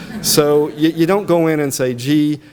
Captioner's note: audience laughs